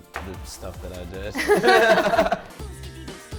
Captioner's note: laughing; upbeat music